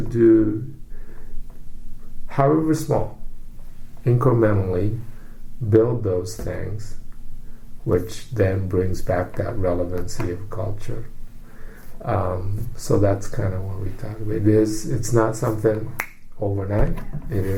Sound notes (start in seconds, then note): 15.9 snaps; 16.6 laughs